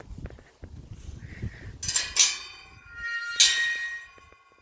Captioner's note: gate creaking